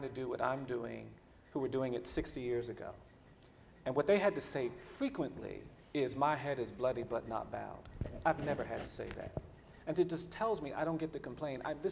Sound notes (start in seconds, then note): none